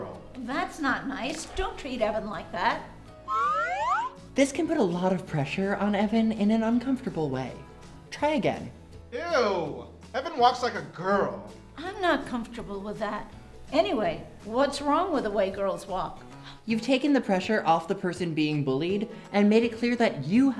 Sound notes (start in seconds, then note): 3.2 slide whistle up